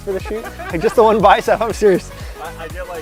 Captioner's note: all laugh